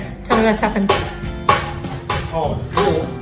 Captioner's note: hammer banging